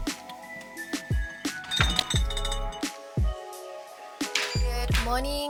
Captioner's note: liquid pouring; glass clanging